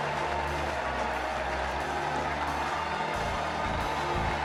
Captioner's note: applause from an energetic audience